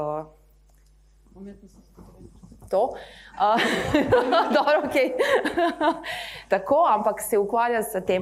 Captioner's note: laughs